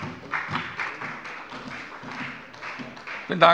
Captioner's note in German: Beifall bei der FDP